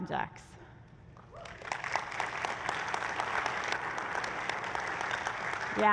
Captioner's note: applause